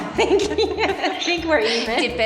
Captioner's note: both laughing